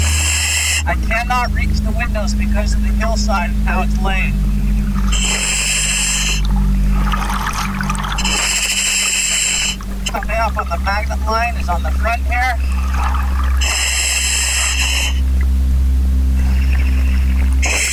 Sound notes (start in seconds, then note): 0.1 oxygen pipe whirling; 5.2 oxygen pipe whirling; 5.2 water burbling